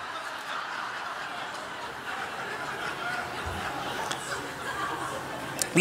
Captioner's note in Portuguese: Risos